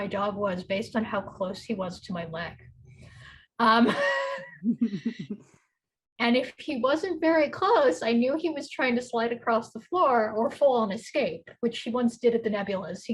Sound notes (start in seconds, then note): 3.8 chuckles; 4.4 laughs